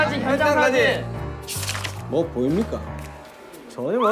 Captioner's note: mysterious footstep